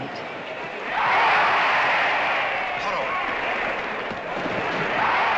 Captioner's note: crowd